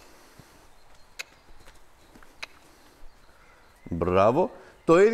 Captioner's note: click, click